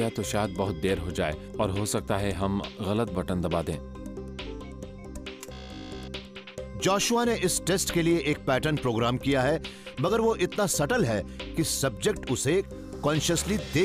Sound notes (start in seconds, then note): 5.4 computer beeps, buzzer sounds